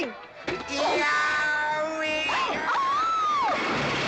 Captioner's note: smack; GW yelling; Katherine screaming